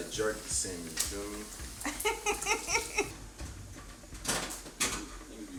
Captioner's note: Angela chuckles